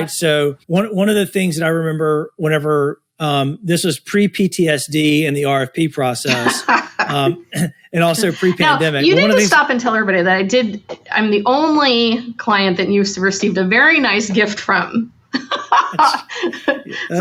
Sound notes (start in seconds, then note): 8.0 laughs; 15.3 laughs